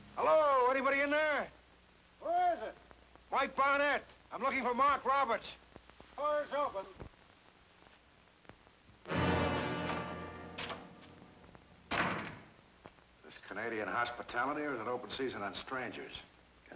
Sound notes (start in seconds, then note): 8.8 door clicking; 9.0 dramatic music; 11.8 door slamming